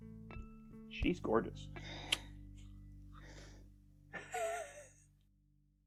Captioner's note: laughter